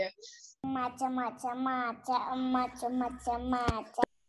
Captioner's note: babbling